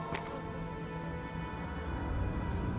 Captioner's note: flies buzzing